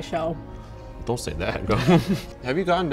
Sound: laughs

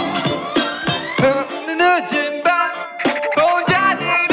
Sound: the pitch gets higher

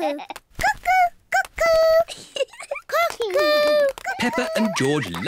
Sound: laughs; giggles

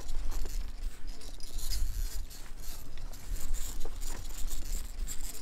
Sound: sound of rope being pulled

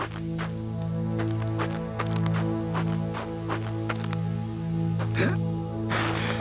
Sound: monster retches

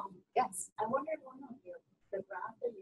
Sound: voiceover

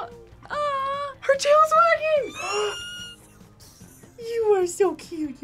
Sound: squeaks

